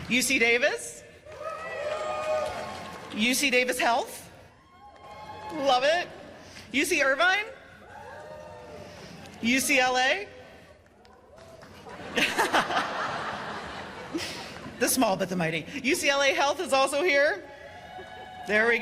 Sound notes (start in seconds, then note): 1.2 cheers and applause; 4.5 cheers and applause; 7.8 cheers and applause; 10.8 cheers and applause; 11.7 laughs; 17.4 cheers and applause